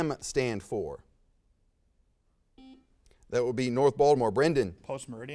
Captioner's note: buzzer sounds